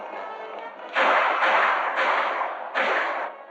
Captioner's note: gunshots